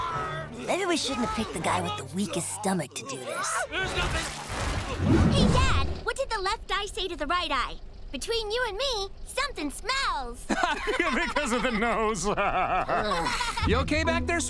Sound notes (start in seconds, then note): 4.1 vomiting; 10.4 laughing; 12.4 Lola groaning